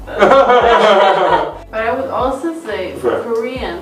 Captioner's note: both laugh